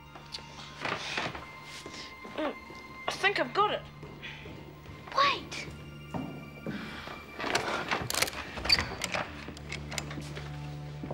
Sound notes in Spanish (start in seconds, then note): 6.1 pasos; 7.0 Paul jadea